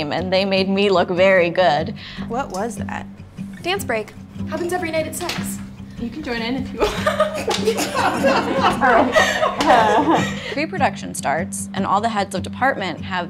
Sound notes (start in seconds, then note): 6.7 laughs; 7.9 crew laughs